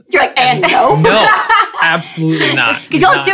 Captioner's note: laughing